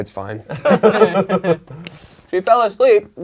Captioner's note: crowd laughing